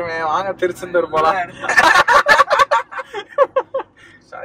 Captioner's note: Laughs